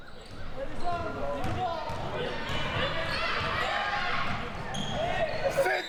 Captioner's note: audience chattering and yelling